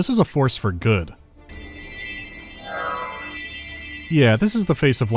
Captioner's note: magic jingling